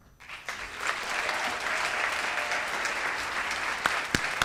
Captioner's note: audience and retirees clap